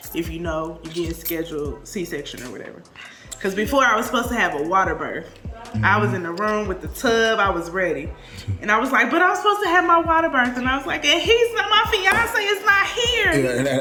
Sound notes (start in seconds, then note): 8.7 dad laughs